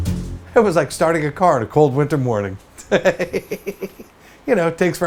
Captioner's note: laughs